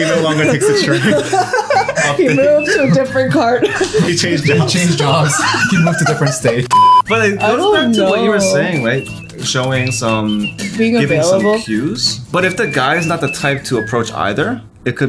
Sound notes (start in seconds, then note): 1.5 laughs; 6.6 beep